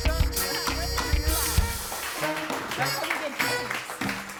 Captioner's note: chattering